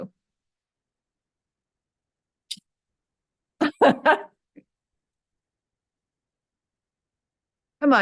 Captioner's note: silence